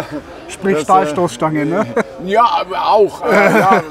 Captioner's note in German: lacht